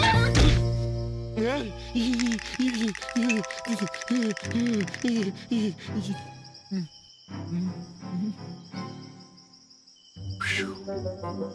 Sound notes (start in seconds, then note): 2.4 whimpering